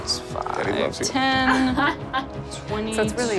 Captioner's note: Sofia laughs